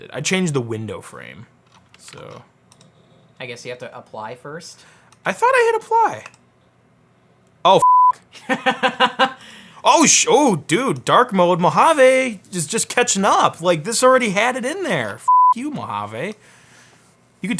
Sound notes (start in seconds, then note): 7.8 beep; 8.3 laughs; 15.2 beep